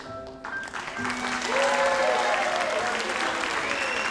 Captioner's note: audience applauds